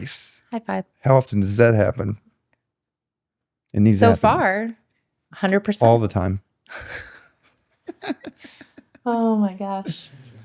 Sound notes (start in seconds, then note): 7.8 laughing